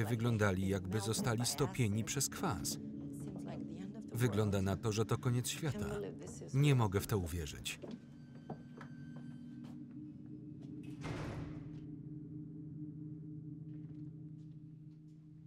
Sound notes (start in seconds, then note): 8.6 door creaks and slams; 11.8 dark instrumental music